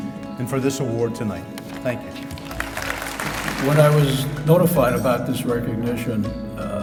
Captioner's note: applause